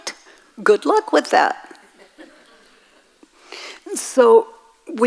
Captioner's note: audience laughs